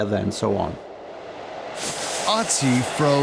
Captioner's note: wind whipping